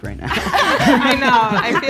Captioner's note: group laughing